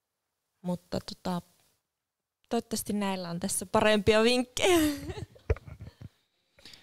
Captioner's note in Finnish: Naurahtaa